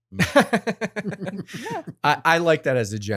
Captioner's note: both laughing